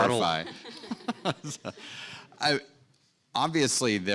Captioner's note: audience and panelists laughing